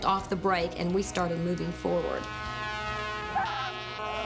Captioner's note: truck horn blows